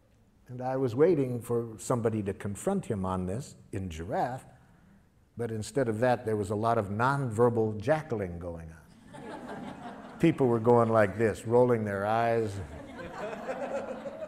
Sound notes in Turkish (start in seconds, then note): 9.0 Gülüşmeler